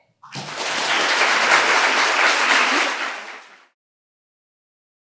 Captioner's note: audience applauding